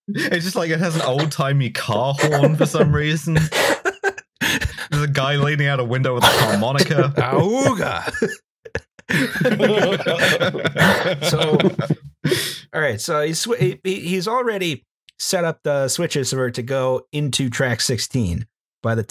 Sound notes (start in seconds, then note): 0.0 chuckles; 4.3 laughs; 8.6 laughter